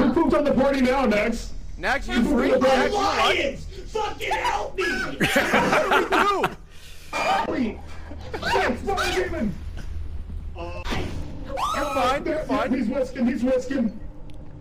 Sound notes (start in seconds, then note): 4.8 laughs; 8.1 screams